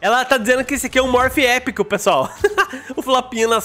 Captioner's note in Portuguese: risos